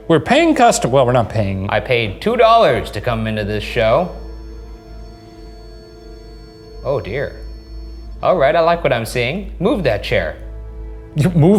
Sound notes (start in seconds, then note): 4.2 REM-pod beeping